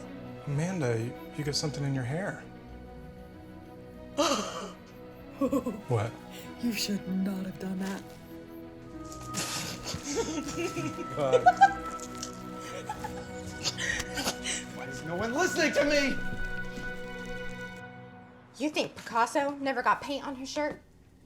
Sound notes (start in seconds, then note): 9.3 laughing